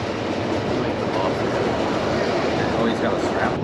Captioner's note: train Noises